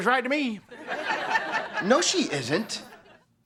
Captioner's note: laughter